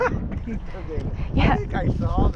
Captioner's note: laughs